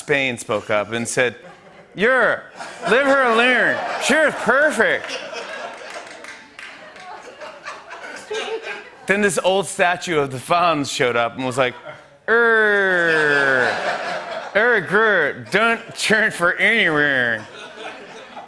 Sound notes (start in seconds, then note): 5.1 laughter and applause; 12.6 laughter